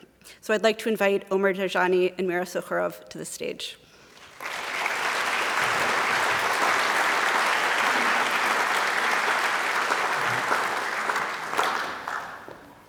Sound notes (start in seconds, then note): 4.1 applause